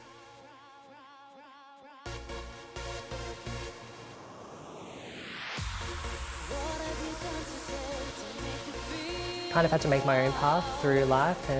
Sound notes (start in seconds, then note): 0.0 upbeat music; 4.2 air whooshing